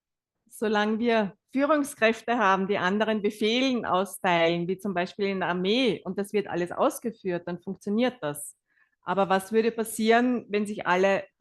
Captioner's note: German live translation